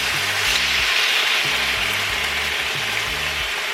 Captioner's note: food sizzling